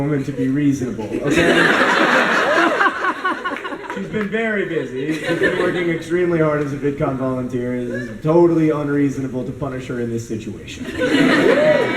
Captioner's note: laughter